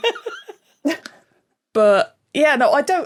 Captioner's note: giggles; blurts chuckle